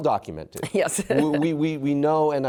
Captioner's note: laughter